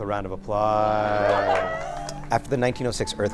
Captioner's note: applause